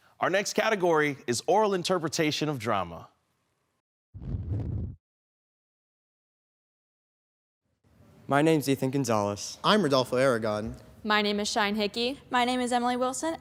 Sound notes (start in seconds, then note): 4.2 silent; 4.2 whoosh